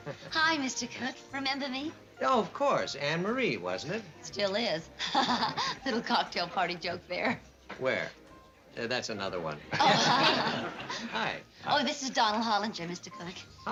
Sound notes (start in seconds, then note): 5.0 laughing; 9.7 laughter